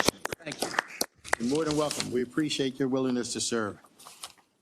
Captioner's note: applause